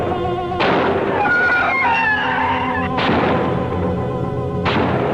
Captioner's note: gunshots firing; screeching